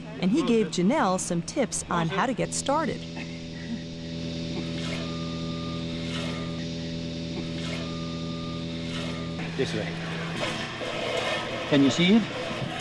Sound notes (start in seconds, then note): 10.2 squirting